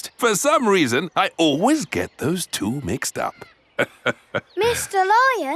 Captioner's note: laughs